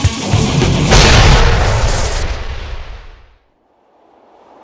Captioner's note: explosion booms; wind whooshing